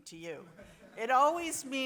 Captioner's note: audience laughs